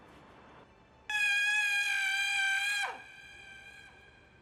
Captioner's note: screams